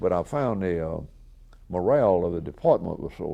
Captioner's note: none